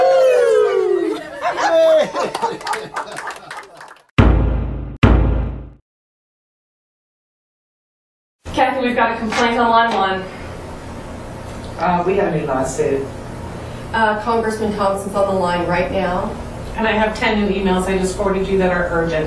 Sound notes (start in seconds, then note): 0.0 cheers, laughter; 4.2 thump